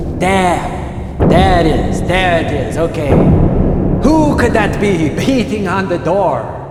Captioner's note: loud Knocks on Door